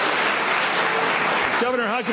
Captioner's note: applause